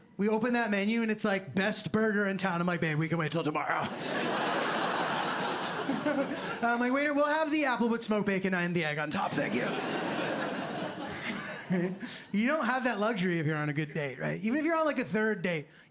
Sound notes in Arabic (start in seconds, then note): 3.8 ضحك; 5.9 ضحكة خافتة